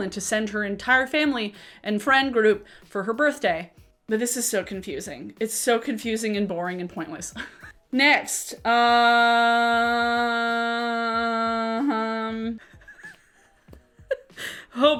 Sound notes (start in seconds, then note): 9.1 extended "uh"; 12.6 laughing